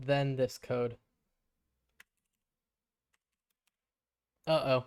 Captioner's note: silence